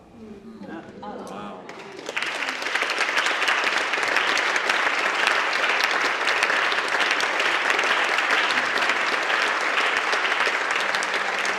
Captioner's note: applause